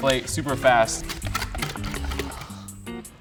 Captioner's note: whisk clicking